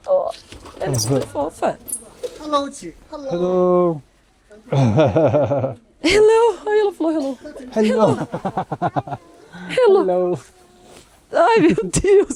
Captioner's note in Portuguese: risadas